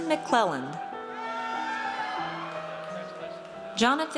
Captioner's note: audience cheers